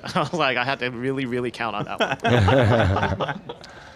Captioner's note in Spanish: risas